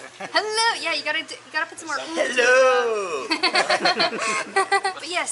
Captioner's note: laughter